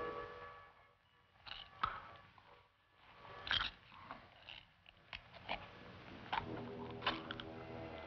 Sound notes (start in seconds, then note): 1.7 clam scraping